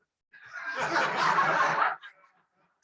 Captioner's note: laughter